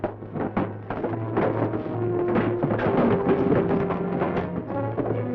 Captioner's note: boxes crashing